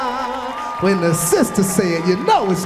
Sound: audience cheering

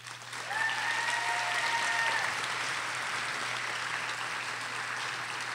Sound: audience cheers and applauds

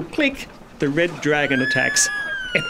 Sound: yells and screams

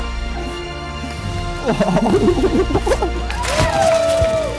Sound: exciting music; laughing; cheering

